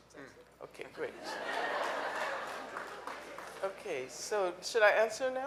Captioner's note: audience laughing